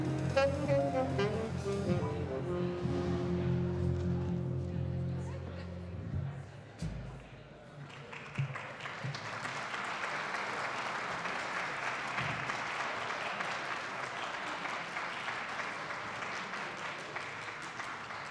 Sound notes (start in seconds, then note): 8.2 attendees applauding